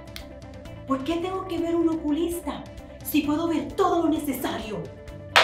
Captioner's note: speaking in Spanish